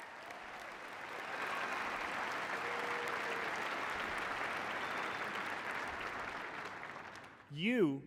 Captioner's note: cheers and applause